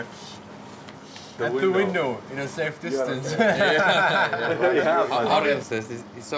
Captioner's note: laughs